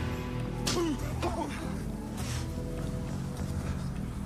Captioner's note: men grunting